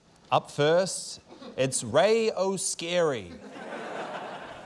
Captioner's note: laughter